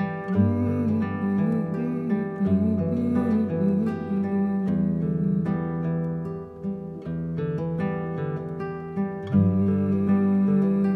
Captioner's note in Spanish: tarareando